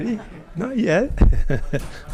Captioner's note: laughing; audience laughing